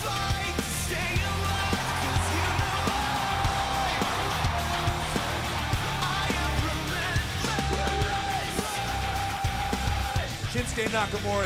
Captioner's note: cheers and applause